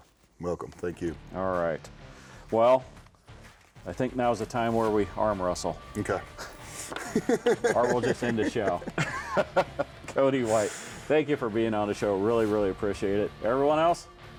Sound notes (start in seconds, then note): 6.3 laughing